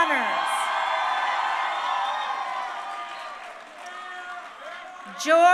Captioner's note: crowd cheering